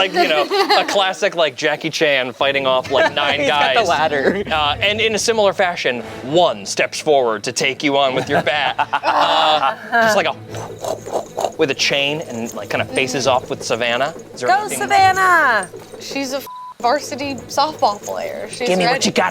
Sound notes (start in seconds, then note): 8.1 laughs; 10.9 whooshes; 16.7 beeps